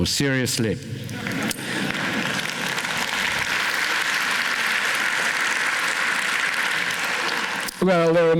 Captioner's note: laughter, applause